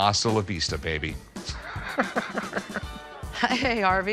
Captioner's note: laughs